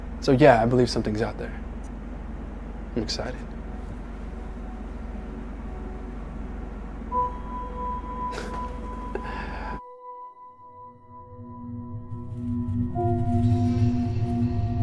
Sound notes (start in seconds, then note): 8.3 Jack chuckles; 12.1 eerie music